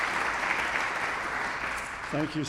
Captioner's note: audience applauding